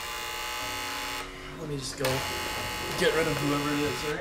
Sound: doorbell buzzing

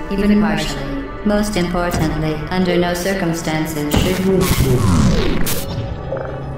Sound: bzzzpt

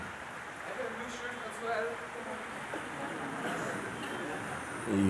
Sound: voice in audience

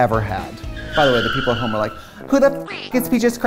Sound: tires screech

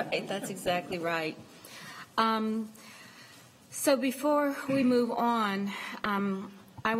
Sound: laughter

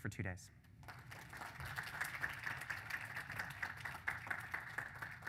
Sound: applause

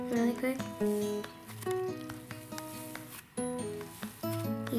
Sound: sizzling

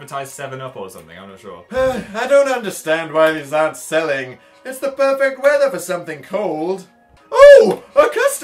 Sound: sighs

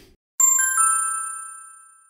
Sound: ding!

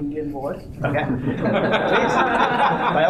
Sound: laughter

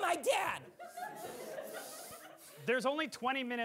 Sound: audience laughing

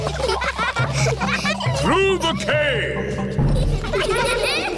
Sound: echoing

